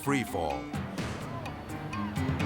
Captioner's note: suspenseful music; people screaming